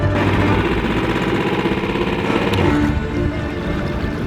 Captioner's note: motor rumbling